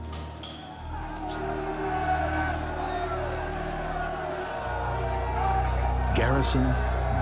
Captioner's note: crowd shouting